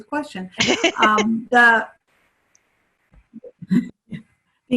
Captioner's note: laughter